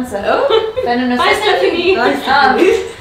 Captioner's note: laughing